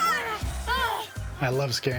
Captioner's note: clown groaning